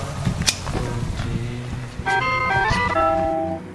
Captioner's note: awful doorbell chime plays